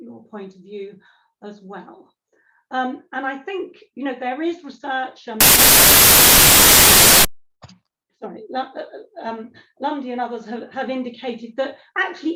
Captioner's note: background interference